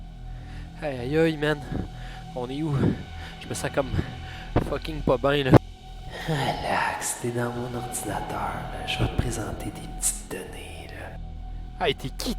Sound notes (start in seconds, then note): 5.9 strange voice